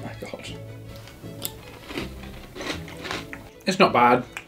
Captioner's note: clusters and oats crunches